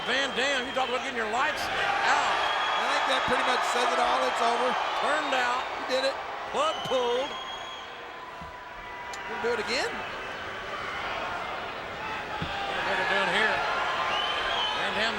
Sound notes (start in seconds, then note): 3.1 crowd cheering; 12.9 crowd cheering